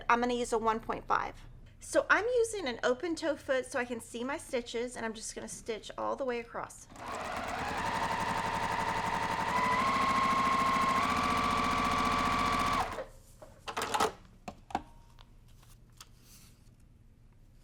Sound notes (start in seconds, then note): 6.9 sewing machine running; 13.2 machine turns off